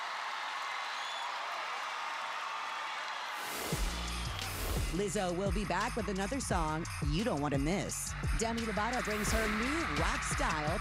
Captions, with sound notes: [cheers and applause] Lizzo will be back with another song you don't wanna miss.